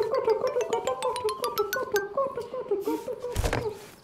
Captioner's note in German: gedämpft